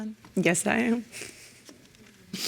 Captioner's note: sniffling